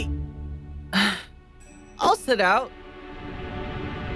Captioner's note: sighs